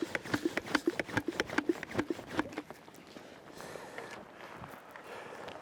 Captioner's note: sprayer pumping continues